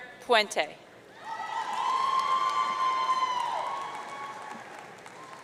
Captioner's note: audience cheering